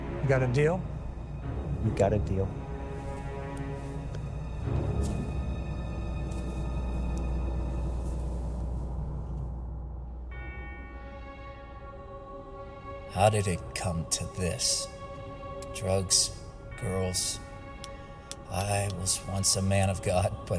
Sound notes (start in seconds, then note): 4.0 tense music; 10.2 bells tolling